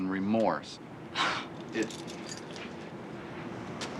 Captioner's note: scoffs